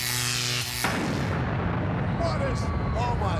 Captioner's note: explosion booms